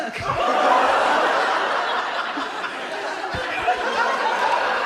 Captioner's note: audience laughs